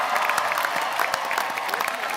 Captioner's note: applause